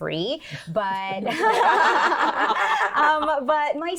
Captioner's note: laughing